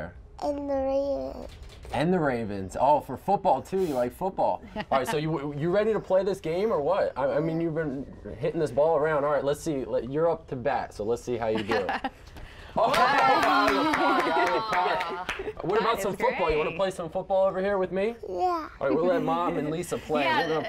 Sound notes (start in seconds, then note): 12.8 applause